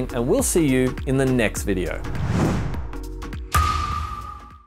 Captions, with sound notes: and we'll see you in the next video. (whooshing) (mellow music)